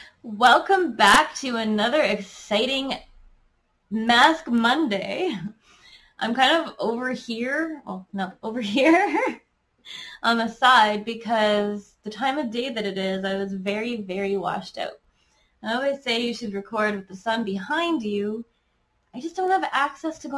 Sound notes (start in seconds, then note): 8.8 giggles